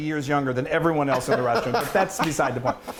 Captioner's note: laughter